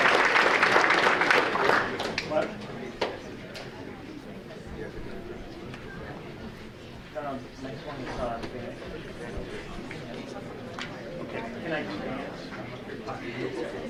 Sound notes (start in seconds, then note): 5.2 light chattering